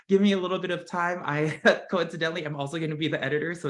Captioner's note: laugh